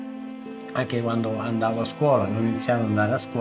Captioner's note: foreign language; upbeat music